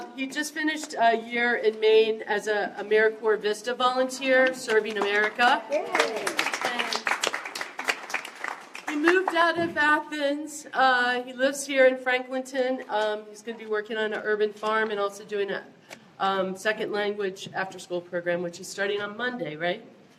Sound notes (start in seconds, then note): 4.9 applause